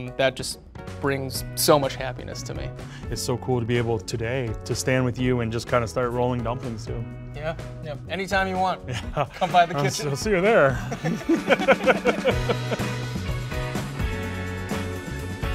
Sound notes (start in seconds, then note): 11.4 both laughing; 12.9 bright music